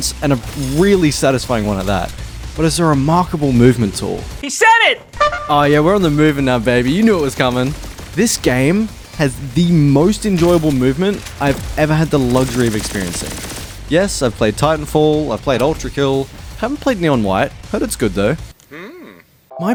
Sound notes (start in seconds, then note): 5.1 skeleton toot